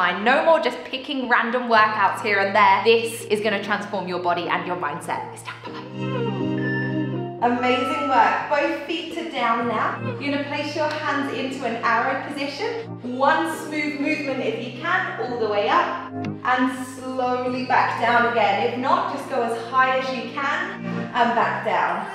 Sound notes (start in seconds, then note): 7.4 timer beeping